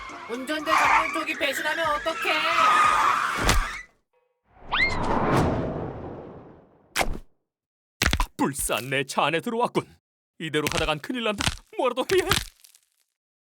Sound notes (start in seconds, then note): 3.3 thud